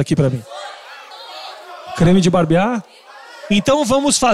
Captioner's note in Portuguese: plateia dá sugestões